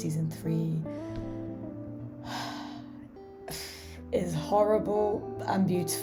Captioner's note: sad sigh